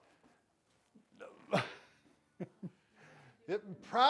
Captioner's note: grunts and laughs